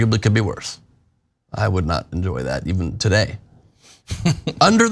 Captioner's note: laugh